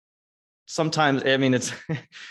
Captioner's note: laughs